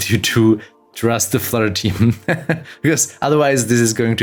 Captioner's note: laughs